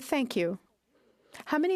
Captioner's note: speaking French